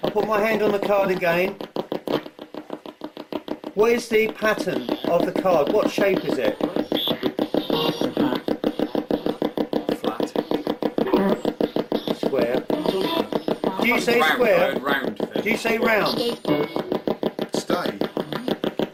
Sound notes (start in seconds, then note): 7.7 ghost box buzzing